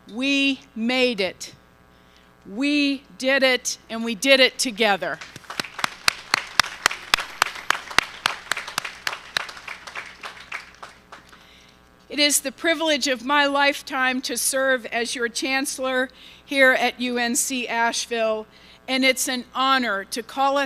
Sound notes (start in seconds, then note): 5.1 applause